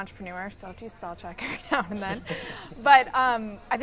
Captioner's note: laughs